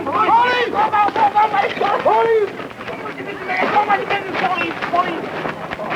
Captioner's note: indiscriminate screaming